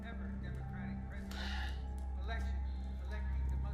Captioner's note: Gavin sighs